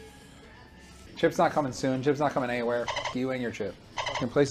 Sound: dolphin noises

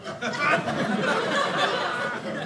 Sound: audience laughing

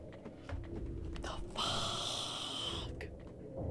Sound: whispered

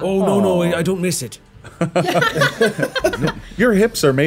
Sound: all laughing

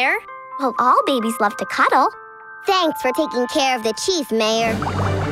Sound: none

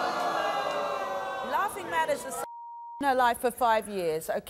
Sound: beeping

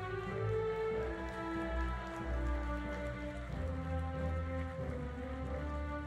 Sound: audience applauding; audience cheering

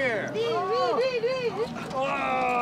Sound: woman yelling

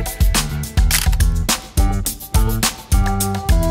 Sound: camera clicking

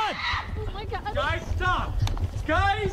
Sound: screaming

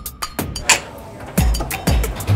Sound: whipping card out of card reader

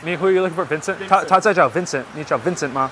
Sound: Mandarin

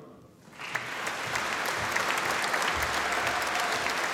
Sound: audience applauding

